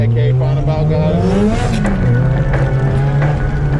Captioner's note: engine revs